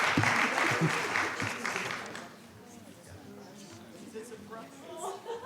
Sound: speaking faintly

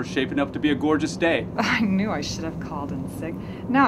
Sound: jokingly

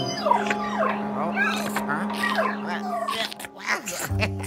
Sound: ghost dog whining happily; Luigi laughing

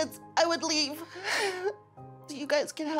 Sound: sobs

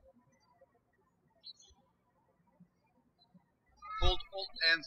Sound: birds chirping

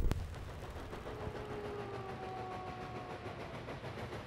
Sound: train engine

